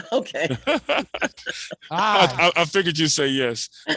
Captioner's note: board members laughing